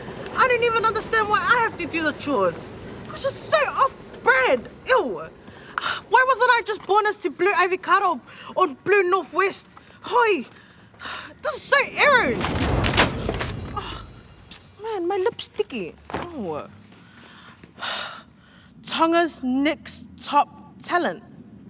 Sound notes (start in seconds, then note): 6.1 sighs; 11.6 sighs; 14.3 sighs; 18.3 sighs